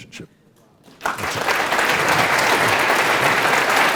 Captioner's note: applause